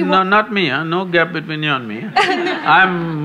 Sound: laughter

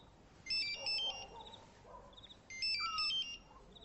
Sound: cellphone ringing

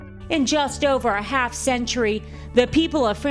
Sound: voiceover

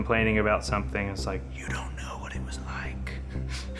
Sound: whispers

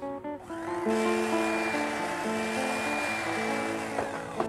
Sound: whirring

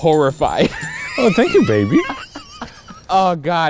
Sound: laughing

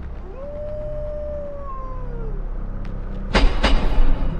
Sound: wolf howling

